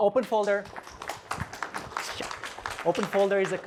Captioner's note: applause